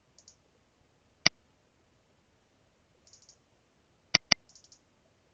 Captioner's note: mouse clicking